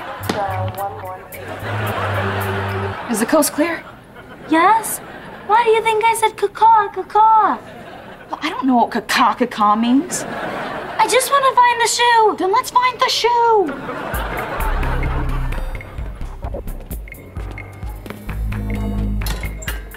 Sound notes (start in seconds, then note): 13.6 laughing